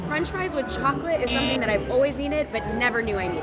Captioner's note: horn